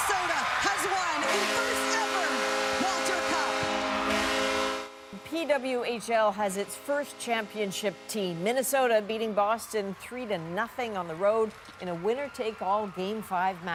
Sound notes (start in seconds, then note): 0.0 cheers and Applause